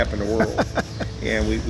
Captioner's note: laughs